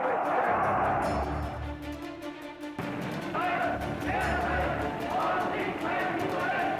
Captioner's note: crowd cheers and chants in German